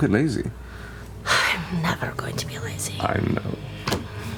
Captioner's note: exhale